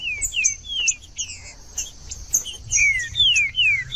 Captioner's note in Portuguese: trinca ferro cantando